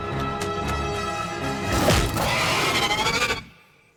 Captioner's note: scream